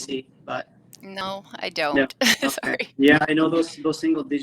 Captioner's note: laughs